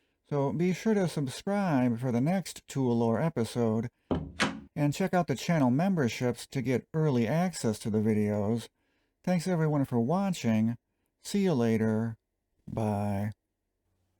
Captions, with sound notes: So, be sure to subscribe for the next Tool Lore episode. [door opening] And check out the Channel Memberships, to get early access to the videos. Thanks everyone for watching. See you later, bye.